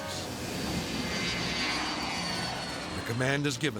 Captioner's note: jet engines roaring